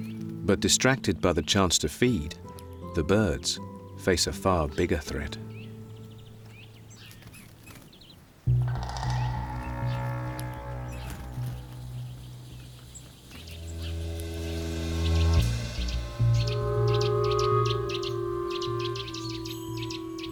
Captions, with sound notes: But distracted by the chance to feed, the birds face a far bigger threat. [birds chirping]